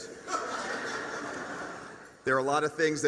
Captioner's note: laughter